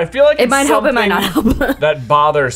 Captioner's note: laughs